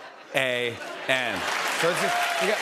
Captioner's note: cheers and applause